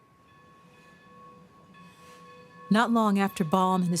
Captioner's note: bell ringing